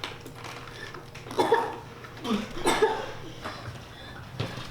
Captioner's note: Phoebe coughs